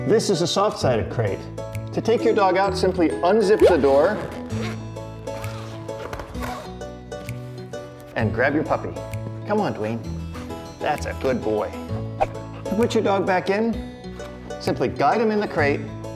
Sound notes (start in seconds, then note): 3.6 unzips